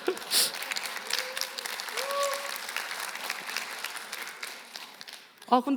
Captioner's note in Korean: 박수, 웃음